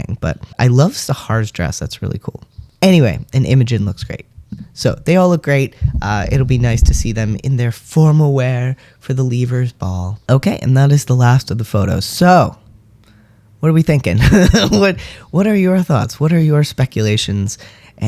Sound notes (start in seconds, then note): 14.2 laugh